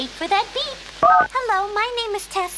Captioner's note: beep